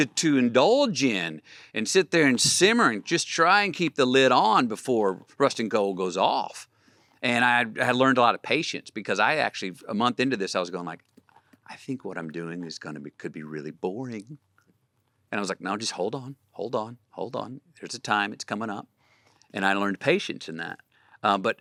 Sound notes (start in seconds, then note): none